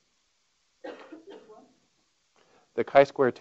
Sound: coughing

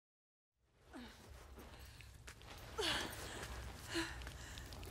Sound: senua grunting

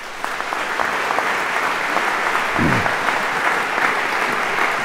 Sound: applause

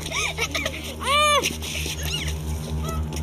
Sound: laughing; muffled screaming

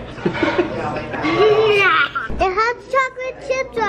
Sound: giggles

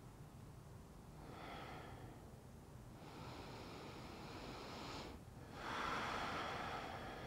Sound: deep breathing

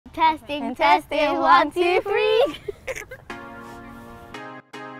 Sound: laughs

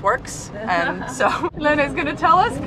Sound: laughing

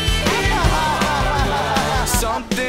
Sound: crying

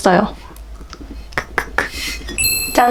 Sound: laughing

